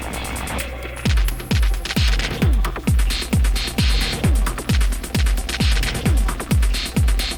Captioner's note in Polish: Nieustające miarowe, niskie, głuche uderzenia